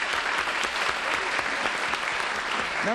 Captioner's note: applause